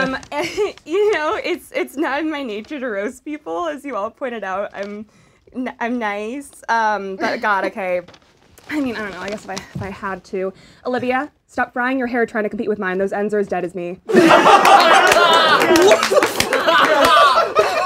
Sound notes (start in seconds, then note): 14.1 laughing